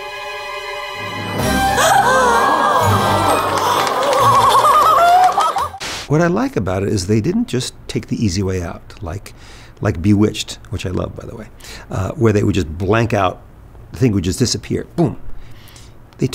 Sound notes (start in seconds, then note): 1.6 everyone gasps; 2.4 applause